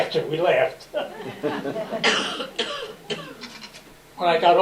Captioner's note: laughter